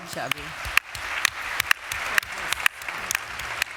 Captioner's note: applause